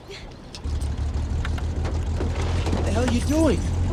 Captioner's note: engine starting